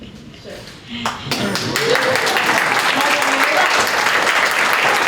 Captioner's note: applause